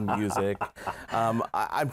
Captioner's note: laughter